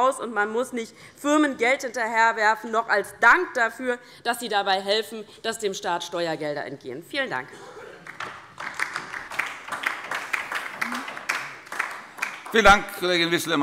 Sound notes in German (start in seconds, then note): 8.0 Beifall